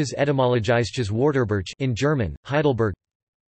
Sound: in German

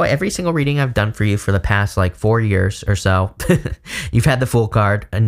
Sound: chuckling

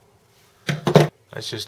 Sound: clunk

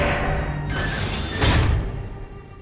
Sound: door opening

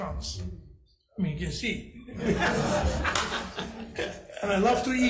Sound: assembly laughing

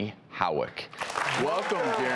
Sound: audience claps

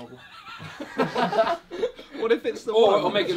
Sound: all laughing

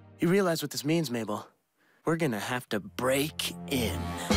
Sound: none

